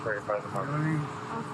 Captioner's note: radio chatter